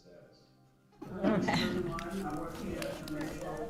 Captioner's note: attendees laughing